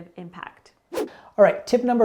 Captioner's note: air whooshing